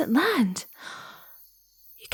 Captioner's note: gasping as she realizes